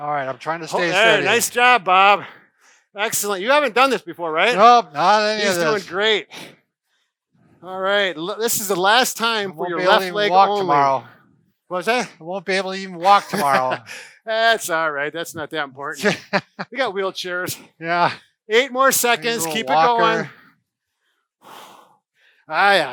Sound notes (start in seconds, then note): 13.0 laughs; 15.9 laughs